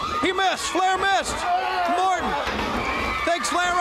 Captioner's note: crowd chatter